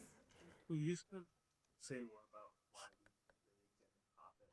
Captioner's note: speaks faintly